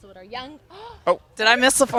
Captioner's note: gasp